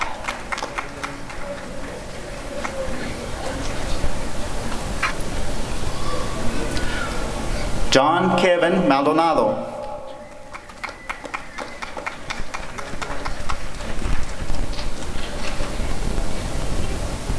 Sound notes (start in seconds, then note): 0.0 applause and cheering; 10.2 applause and cheering